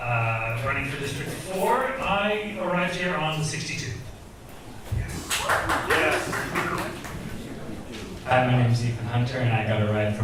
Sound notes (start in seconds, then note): 5.1 audience cheers and claps